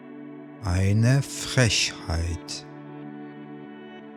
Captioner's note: german